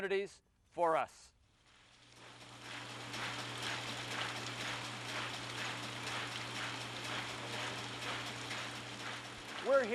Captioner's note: machine running